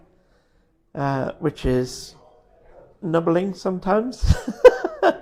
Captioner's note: laughs